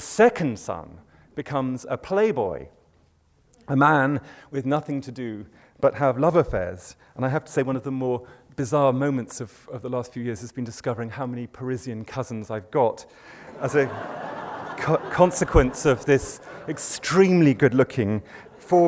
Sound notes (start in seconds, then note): 13.4 laughter